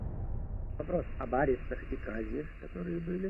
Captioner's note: Khrushchev recording plays